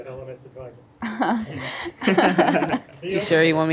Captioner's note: panelists laughing